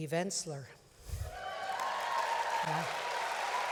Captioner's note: applause